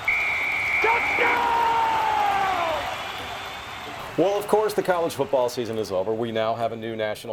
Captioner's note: referee Yelling